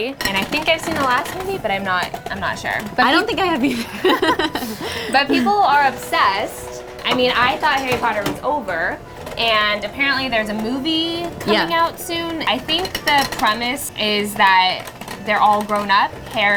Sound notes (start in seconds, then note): 4.6 laughing